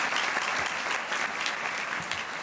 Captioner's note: applause